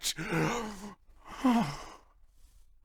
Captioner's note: wistful sigh